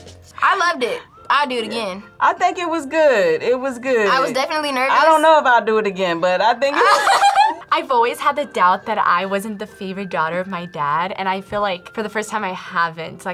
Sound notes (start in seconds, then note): 6.7 laughs